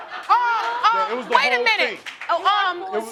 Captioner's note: crowd laughing